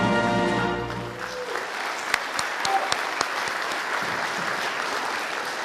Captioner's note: audience applauding